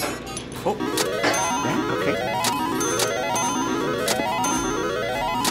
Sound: slot machine jingles

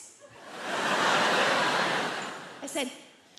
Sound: audience laughs

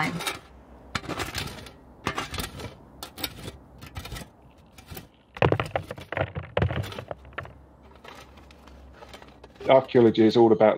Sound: digging

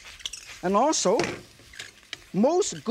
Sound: ingredients sizzle; wok thuds softly

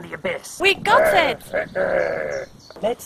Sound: loin grumbling victoriously

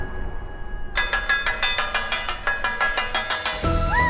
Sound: clanging

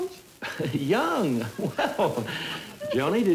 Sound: laughing

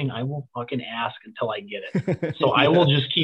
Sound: laughing

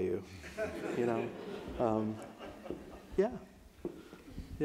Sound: audience laughs

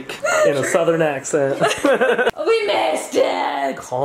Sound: laughing

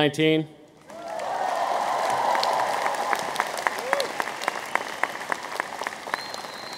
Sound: audience applauds

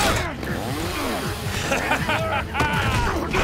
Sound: laughing; grunting

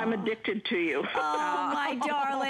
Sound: laughter

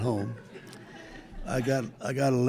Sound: group laughing

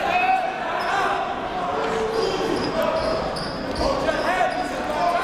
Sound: crowd talking

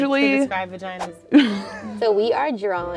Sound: laughs

